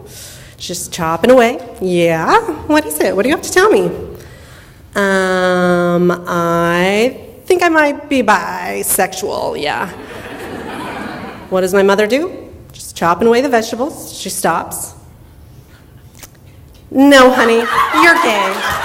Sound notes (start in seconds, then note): 10.0 audience laughter; 17.8 audience laughter and clapping